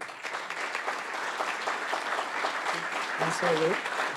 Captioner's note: audience applauds